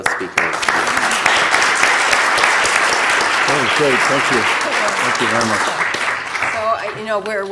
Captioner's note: applause